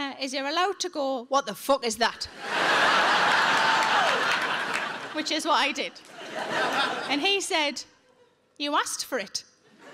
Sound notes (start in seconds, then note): 2.3 audience laughs